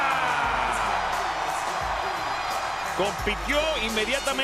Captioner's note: applause